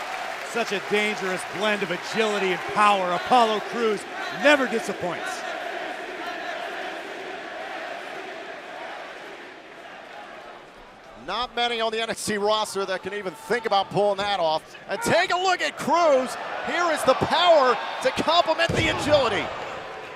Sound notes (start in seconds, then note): 7.4 fans chanting